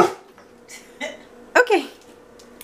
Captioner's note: laughs